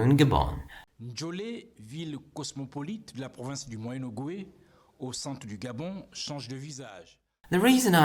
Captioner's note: news report in French